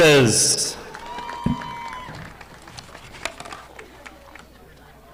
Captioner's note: audience applauding